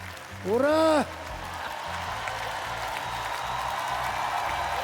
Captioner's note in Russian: аплодисменты; ликование